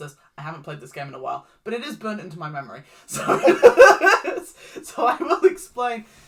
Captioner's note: laughs